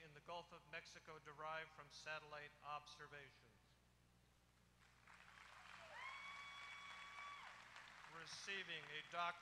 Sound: applause

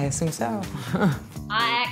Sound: chuckles

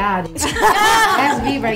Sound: laughs

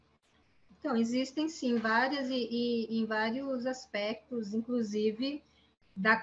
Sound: speaking in Portuguese

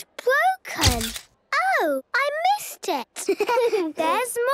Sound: camera clicks; giggling

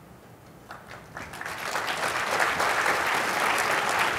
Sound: applause

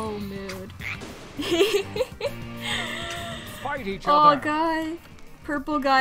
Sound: giggles

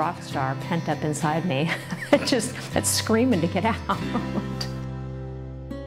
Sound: laughs

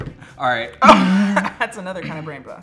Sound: laughs

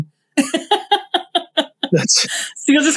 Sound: laughs

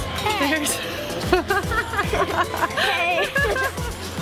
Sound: laughing

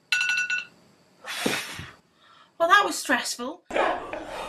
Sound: exhales

